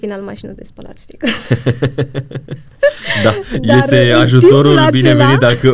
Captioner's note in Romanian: Râsete